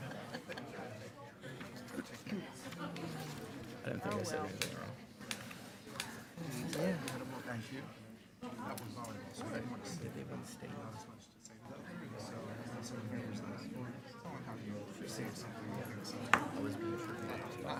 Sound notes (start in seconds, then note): 1.1 attendees chattering; 14.3 attendees chattering